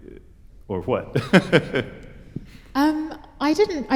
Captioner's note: laughter